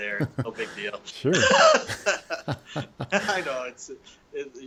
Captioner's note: both chuckling